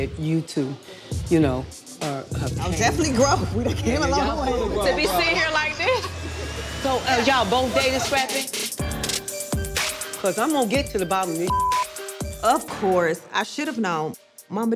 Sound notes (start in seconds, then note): 11.4 beep